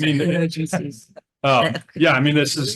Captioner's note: chuckles